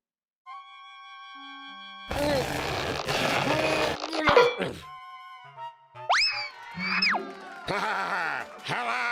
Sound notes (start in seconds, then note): 2.1 straining